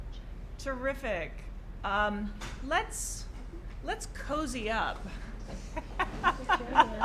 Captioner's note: laughter